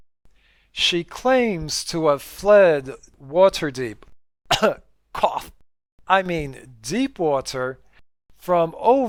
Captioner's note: cough